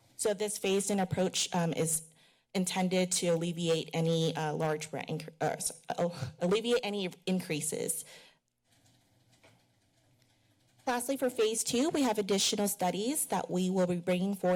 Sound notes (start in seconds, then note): 8.2 pause